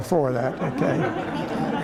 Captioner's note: laughter